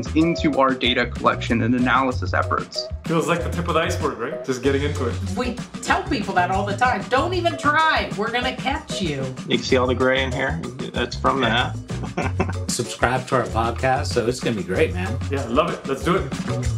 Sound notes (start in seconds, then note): 11.9 chuckling